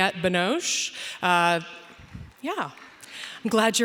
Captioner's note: audience applauding